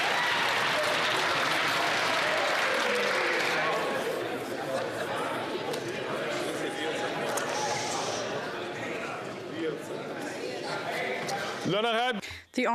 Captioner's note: applause